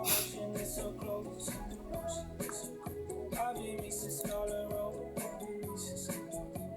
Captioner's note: snorts and music; singing